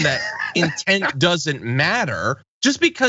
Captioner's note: laugh